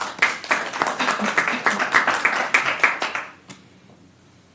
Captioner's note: applause